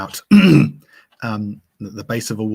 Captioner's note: clears throat